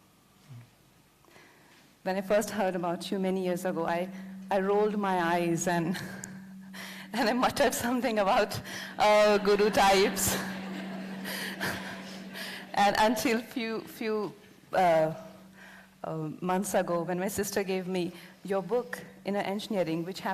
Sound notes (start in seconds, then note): 5.8 laughs; 9.8 laughter